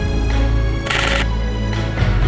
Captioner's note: shutter noises